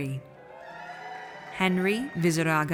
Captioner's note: audience cheers